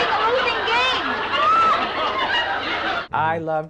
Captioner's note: people laughing